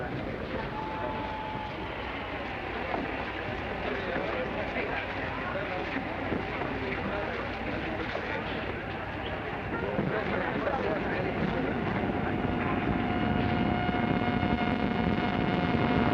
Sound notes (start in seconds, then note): 0.6 train whistling; 3.4 people murmuring; 11.8 train rumbling